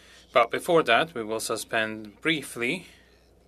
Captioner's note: speaking french